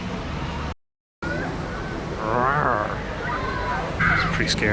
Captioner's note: makes cat growling noise